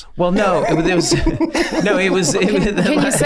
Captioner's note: gang laughing